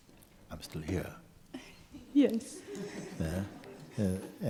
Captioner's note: laughter